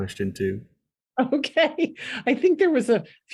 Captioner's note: laughing